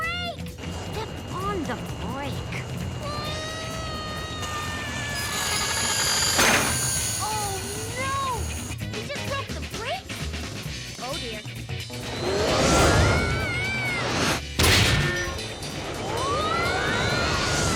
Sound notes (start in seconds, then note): 2.5 Owen screaming; 4.4 metal grinding; 16.1 all screaming